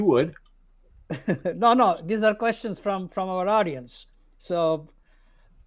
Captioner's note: laughs